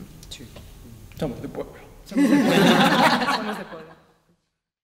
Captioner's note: laughs